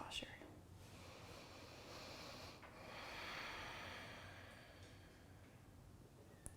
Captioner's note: deep breathing